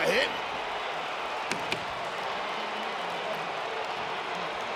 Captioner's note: crowd cheers